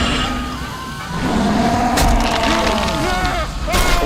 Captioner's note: distant screams; roars; frantic yelling